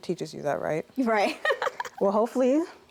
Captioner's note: laughs